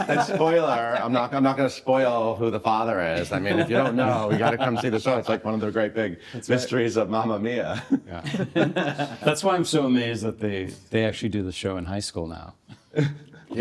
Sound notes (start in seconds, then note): 8.4 everyone chuckling